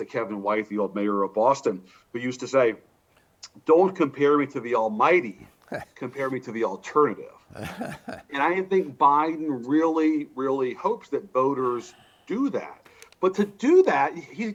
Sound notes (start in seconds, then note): 9.1 laughs